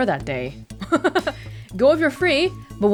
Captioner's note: chuckles